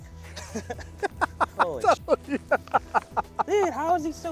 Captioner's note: giddy laughter